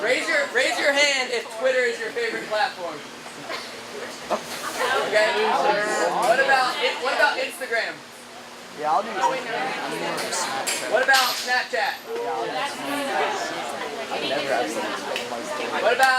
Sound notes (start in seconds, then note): 9.1 class chattering; 12.1 class chattering